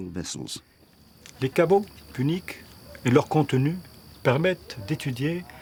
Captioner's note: speaking French